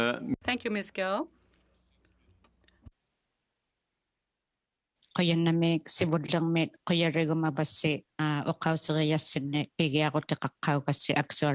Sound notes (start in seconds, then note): 4.1 speaking French